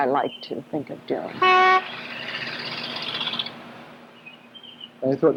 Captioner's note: horn honks